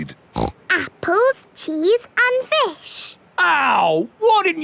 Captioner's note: snorts